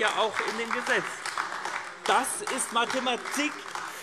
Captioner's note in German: Beifall AfD